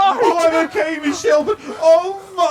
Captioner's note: gasping